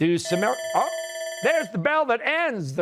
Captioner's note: bell rings